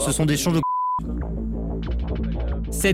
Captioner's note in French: bip